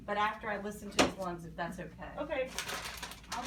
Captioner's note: bag crinkling